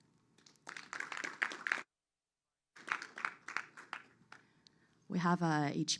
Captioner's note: applause